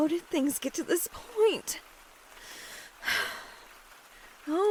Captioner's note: deep breath